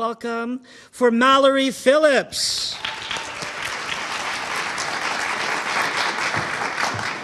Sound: audience applauding

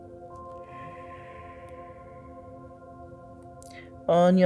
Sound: exhales

